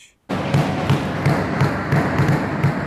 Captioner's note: noise of people cheering